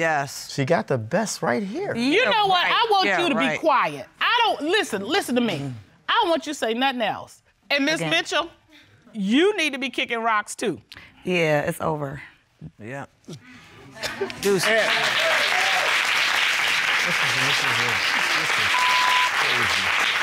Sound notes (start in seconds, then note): 14.3 audience applauding